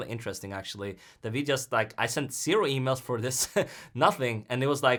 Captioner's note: chuckles